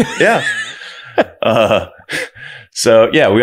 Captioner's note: both laughing